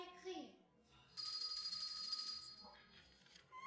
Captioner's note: doorbell rings